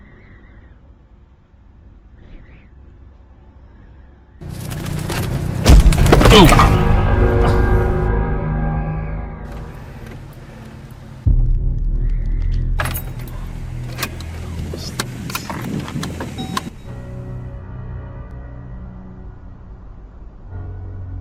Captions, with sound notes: (car engine running) - Oo. (ominous music playing) (key turning) What's this? (ominous music continues)